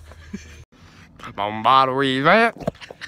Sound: speaking in his own language

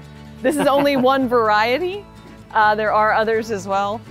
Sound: laughs

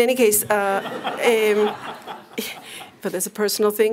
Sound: laughter

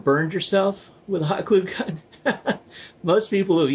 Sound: laughs

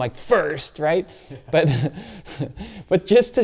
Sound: laughs

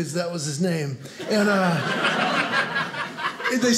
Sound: audience laughing

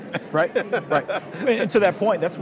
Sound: laughing

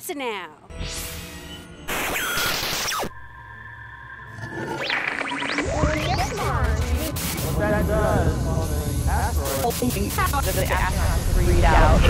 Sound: sound Effects

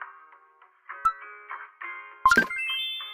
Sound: click sound

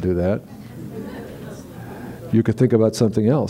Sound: laughter

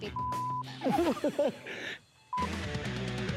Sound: laughs

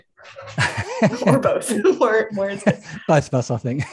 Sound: laughter

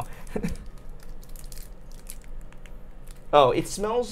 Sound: wrapper rustling

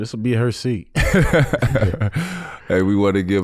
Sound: chuckling

